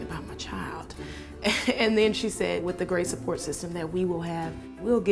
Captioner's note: laughs